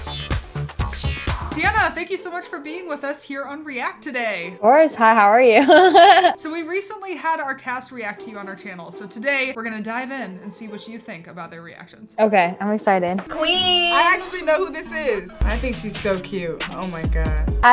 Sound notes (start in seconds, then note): 4.4 laughs